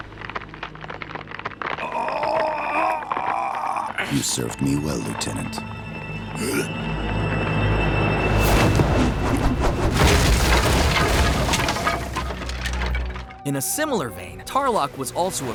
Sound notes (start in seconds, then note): 0.0 cracking; 1.8 groaning; 6.3 groaning